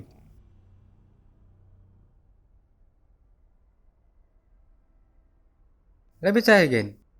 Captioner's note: confused silence